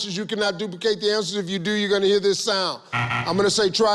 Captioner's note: buzzer